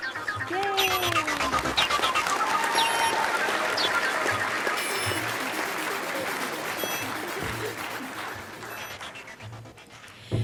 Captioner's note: sound of applause and cheering from the audience